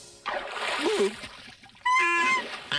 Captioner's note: gulp; squawk